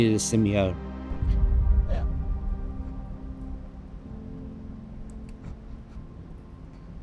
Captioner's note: dramatic music; sniffling